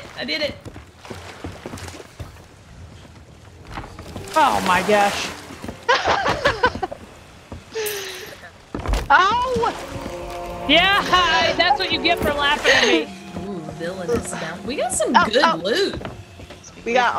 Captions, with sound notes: I did it. >> My gosh. [LAUGH] Yeah, that's what you get for laughing we got some >> We got a lot yeah